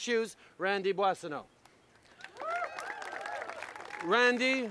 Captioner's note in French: Applaudissements